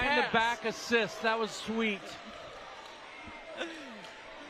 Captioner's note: laughter